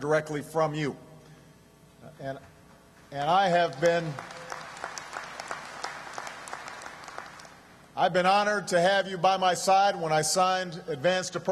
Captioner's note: applause